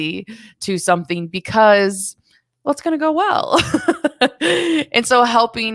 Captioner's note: chuckles